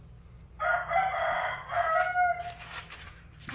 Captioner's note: rooster sound